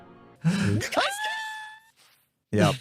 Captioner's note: screams, fading into the distance